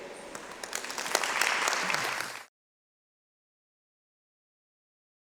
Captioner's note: audience clapping